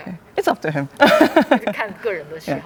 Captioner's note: laughs